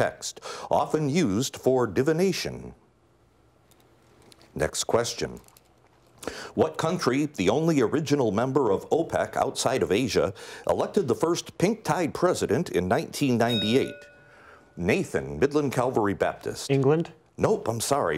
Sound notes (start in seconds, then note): 13.4 bell rings